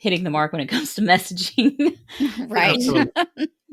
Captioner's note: laughing